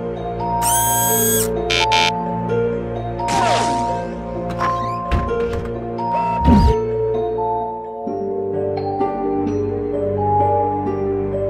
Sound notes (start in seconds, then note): 0.6 whirring, Buzzing; 4.5 door Creak, Close